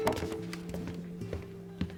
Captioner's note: gentle music; glass thuds